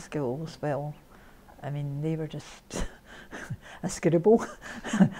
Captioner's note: laughs